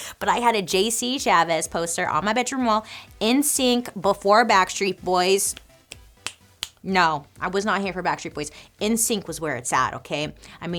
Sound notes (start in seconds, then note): 5.4 snaps